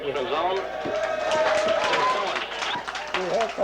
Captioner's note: clapping